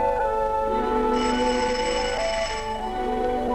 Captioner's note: door Bell